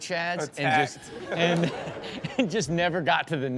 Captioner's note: chuckles